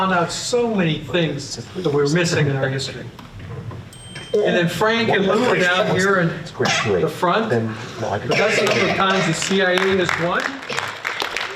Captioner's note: applause